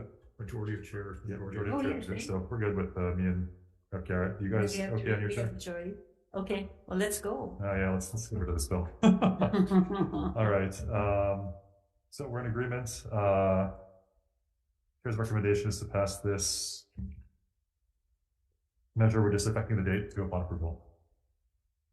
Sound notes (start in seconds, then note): 9.0 laughs